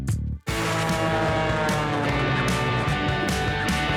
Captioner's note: airplane whirring; upbeat music